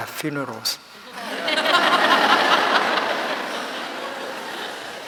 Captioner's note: laughing